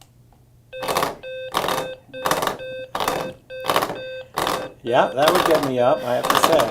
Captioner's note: device beeping and vibrating